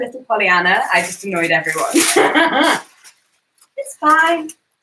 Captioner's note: laughs